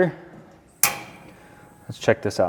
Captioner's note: burner knob clicks